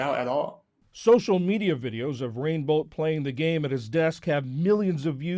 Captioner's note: voice-over